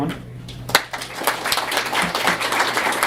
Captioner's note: applause